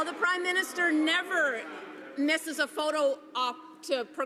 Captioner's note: some Applause